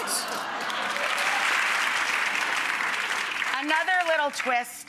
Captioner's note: applause